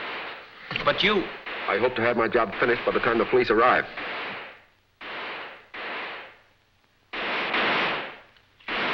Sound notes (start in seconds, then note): 5.2 guns firing